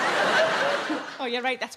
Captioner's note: audience laughing